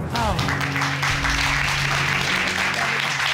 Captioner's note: applause